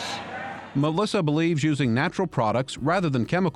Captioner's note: voiceover